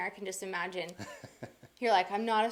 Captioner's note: laughs